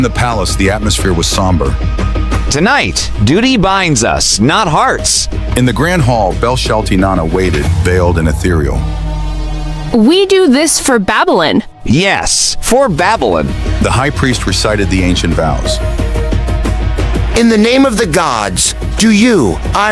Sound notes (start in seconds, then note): 9.0 quietly, as Ira approaches